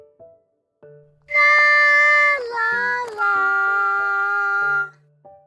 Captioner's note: tweet tweet tweet